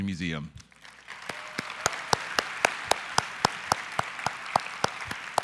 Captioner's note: audience applause